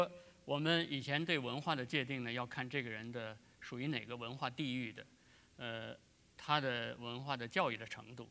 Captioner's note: speaking in Chinese